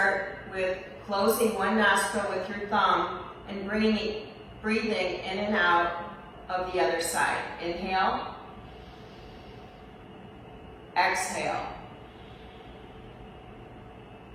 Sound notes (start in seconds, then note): 8.5 inhales; 11.8 exhales